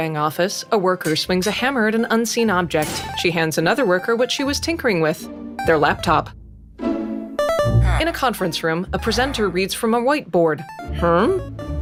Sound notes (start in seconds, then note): 1.1 anvil clangs; 9.0 villager grunting in unison